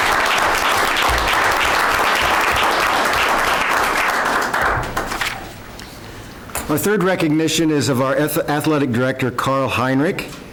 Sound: applause

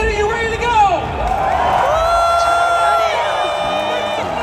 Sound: people clamoring

